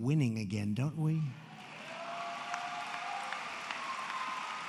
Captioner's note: applause